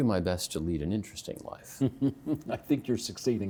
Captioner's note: chuckling